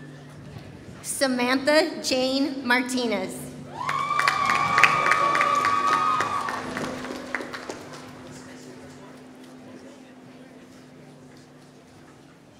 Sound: applause

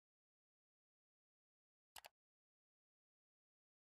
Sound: mouse click

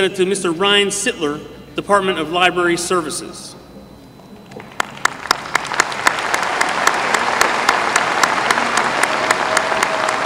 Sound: applause

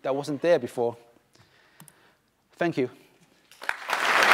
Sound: applause

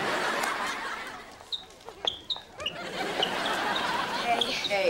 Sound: squeaking

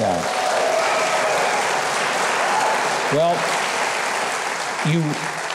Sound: audience cheering and applauding

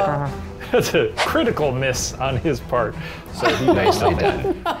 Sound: laughing

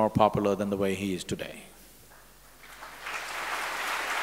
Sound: applause

